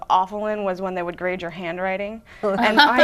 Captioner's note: laughing